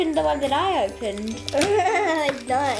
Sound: laughs

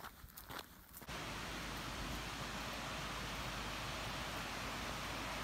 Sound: water crashing

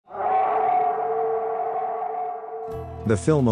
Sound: howl

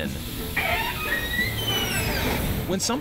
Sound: door squeaks

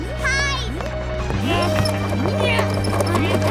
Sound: grunting

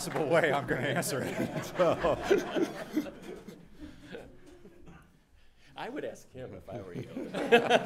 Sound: background laughter

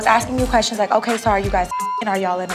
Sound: beep

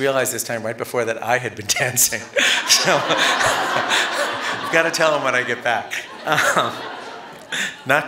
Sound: laughter

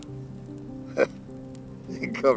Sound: chuckles

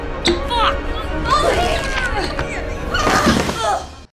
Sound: grunts

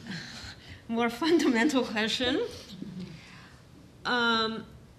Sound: chuckling

